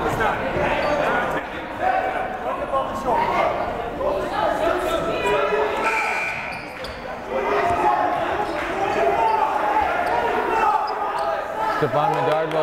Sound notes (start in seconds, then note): 6.2 buzzer blaring; 9.0 yelling